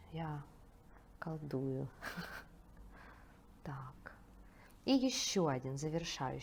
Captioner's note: laughs